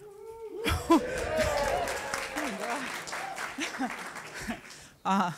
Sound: applause and Cheering

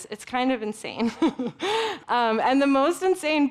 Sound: giggling

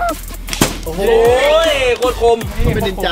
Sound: blows

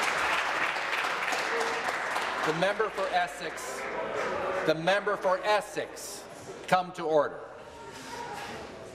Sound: applause

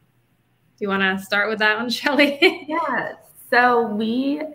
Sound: laughing

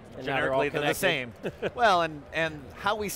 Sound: laughing

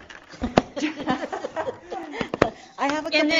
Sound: laughing

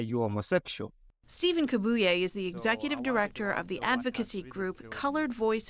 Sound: voice-over

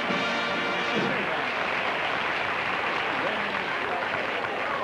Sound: applause

